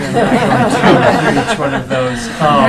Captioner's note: laughing